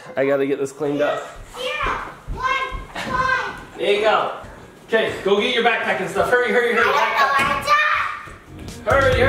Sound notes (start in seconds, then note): 1.9 yelling from closet